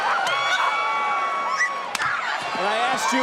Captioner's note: crowd cheering; crowd yelling; Roxanne yelling